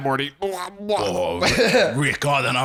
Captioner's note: quacking, as Rick; as Cockney Morty